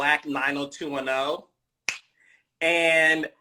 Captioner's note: snaps fingers